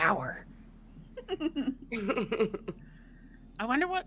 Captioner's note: players laughing